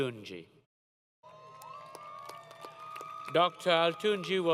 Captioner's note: applause